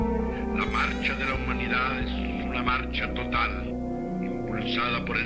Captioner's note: person speaking Spanish